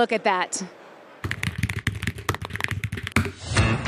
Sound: keys clacking

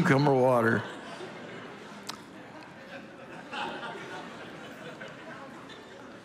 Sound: congregation laughing continues

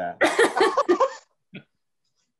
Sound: laughter

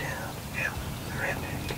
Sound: whispering

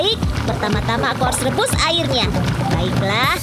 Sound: water boils

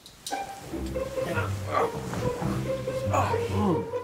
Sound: dad grumbles in sleep

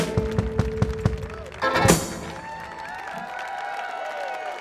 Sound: audience applauding

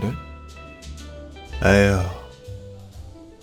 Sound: sigh

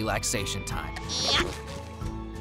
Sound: grunting

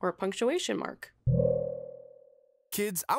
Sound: buzzing

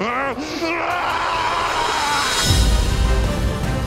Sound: laughs maniacally; screams; dramatic music

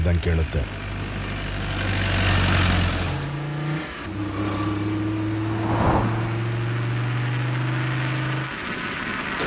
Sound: car Sound

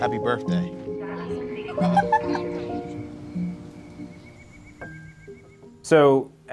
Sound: female voice speaks and laughs

